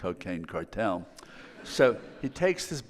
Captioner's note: audience laughing